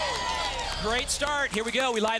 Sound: audience applause

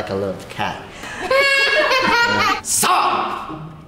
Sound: laughing

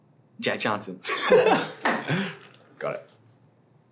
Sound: laughs

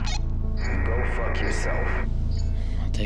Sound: radio

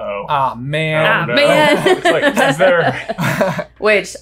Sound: laughing

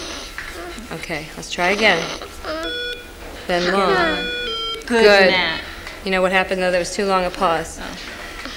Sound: morse code bleeps

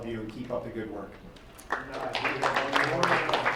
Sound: crowd applauds

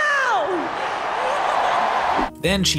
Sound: audience cheers

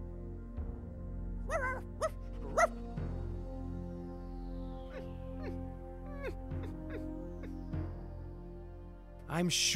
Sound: barking, whining

